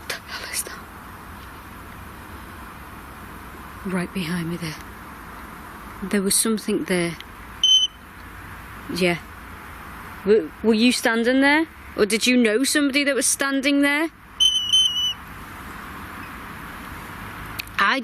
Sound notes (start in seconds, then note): 7.6 device chirps; 14.4 device chirps